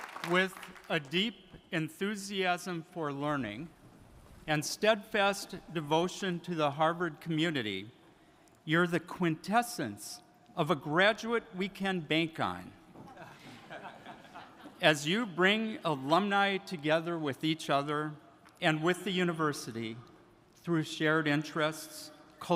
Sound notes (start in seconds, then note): 13.0 attendees laughing